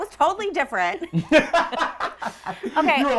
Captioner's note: laughing